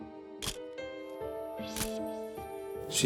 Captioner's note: camera shutter click